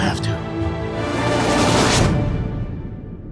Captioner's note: overhead swoop